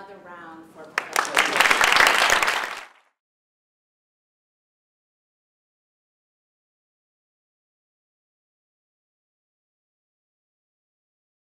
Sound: applause

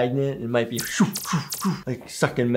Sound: laser sounds

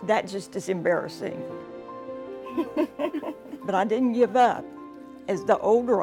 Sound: laugh

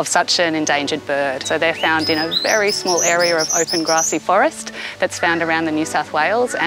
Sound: eastern Bristlebird calling

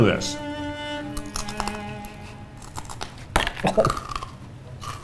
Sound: crunches loudly

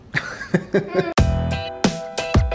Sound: dad laughing; upbeat music

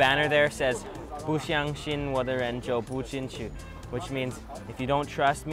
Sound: speaks another language

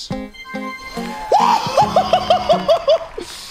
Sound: glad whooping

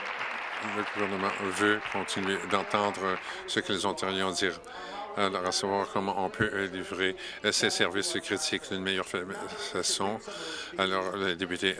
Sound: applause

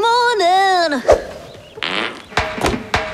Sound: fart

